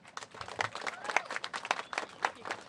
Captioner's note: applause